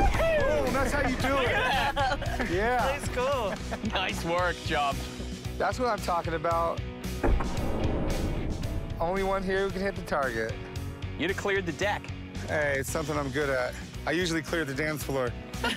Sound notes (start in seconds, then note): 7.2 gun shot